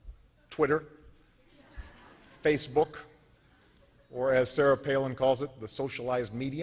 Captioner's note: laughter